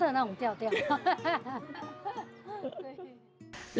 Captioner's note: laugh